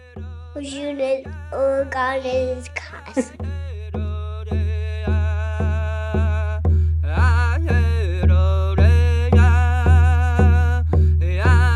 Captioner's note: Child giving farwell in Ojibwe language